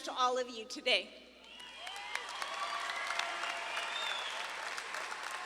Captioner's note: audience claps and cheers